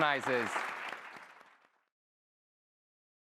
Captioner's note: applause